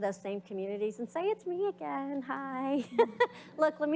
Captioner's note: laughs